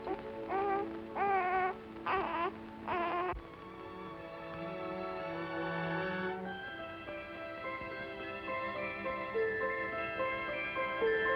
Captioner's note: baby fusses